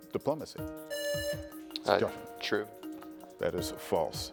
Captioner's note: buzzer buzzing